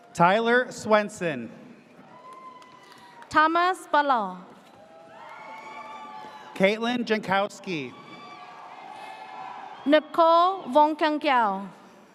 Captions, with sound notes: - Tyler Swenson. (audience cheers) - Thomas Balal. (audience cheers) - Caitlin Jankowski. (audience cheers) - Nicole Vokenkow.